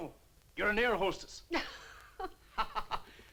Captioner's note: both laugh